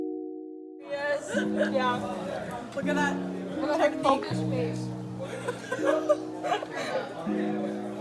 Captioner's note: collective laughter